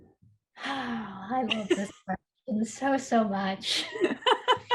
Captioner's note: sighs; chuckles; laughs